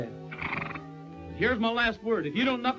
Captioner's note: horse nickering